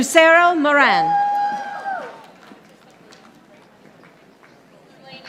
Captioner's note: audience applauding